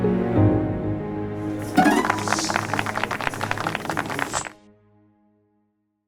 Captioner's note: applause